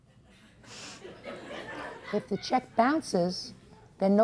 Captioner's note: attendees laugh